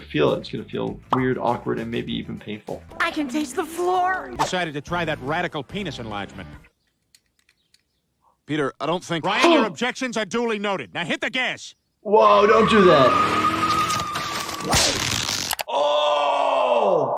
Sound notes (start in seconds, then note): 13.2 car engine runs